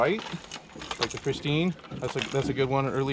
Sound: tackle clattering

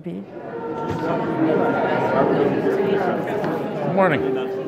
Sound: people chattering

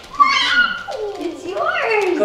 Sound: squealing

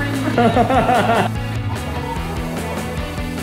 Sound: laughing

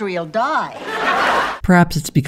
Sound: audience laughter

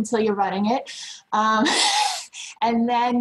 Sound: laughs

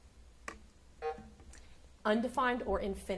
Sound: buzzer sounding

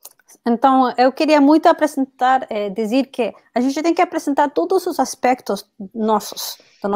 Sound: speaks portuguese

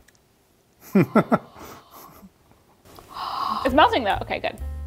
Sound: breathing

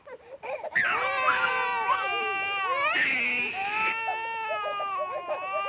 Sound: babies crying

